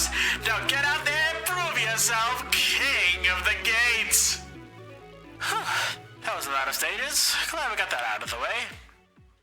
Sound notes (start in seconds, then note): 5.4 phew